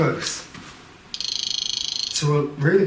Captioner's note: Rem chirps